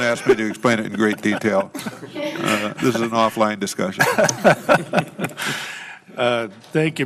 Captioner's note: laughter